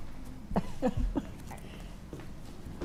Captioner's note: laughing